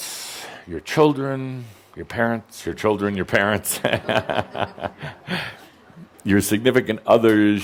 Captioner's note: chuckling